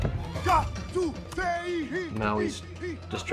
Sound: Maui chanting in foreign language

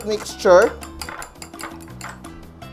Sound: stirring sound

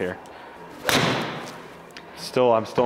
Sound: ball thuds

